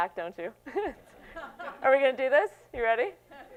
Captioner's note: laughs